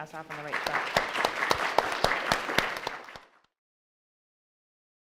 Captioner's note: audience applauds